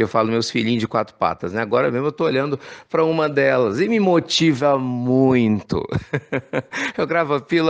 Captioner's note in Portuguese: risos